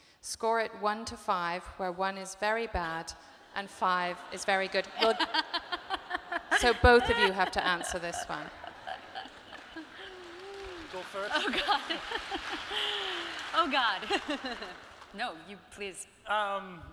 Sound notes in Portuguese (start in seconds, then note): 4.9 Natalie laughing; 11.3 público aplaudindo